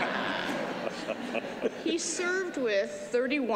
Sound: laughter

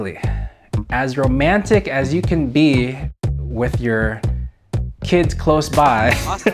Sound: laughs

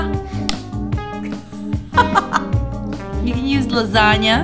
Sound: laughs

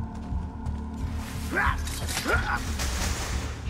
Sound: hidden blade stabbing sound

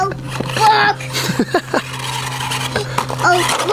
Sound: narrator chuckling

